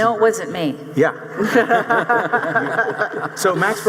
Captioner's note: audience laughing